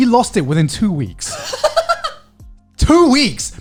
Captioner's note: laughing